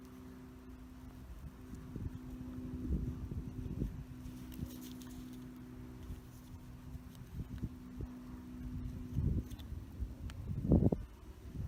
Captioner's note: wind